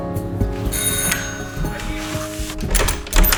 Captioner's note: ringing doorbell